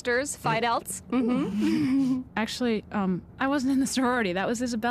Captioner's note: giggles